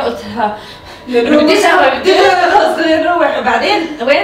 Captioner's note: gasping